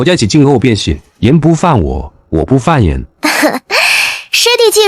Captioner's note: laughs